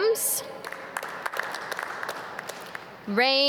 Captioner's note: audience clap